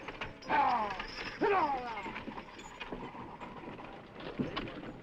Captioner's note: horse hooves clopping